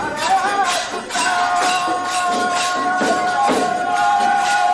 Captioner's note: Applausi